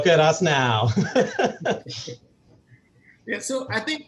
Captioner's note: laughs